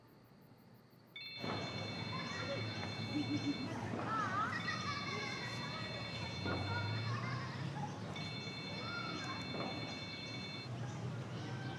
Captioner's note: phone ringing